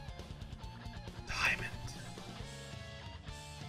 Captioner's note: whispers